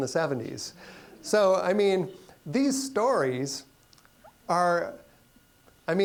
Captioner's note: audience chuckling